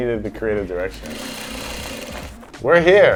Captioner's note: sewing machine whirring